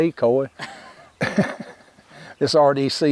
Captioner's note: hunters chuckling